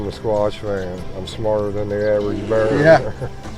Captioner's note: laughing